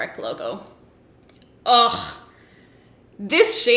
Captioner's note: scoffs in pleasure